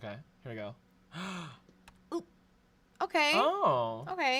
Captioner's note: gasps